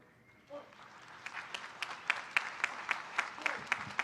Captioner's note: applause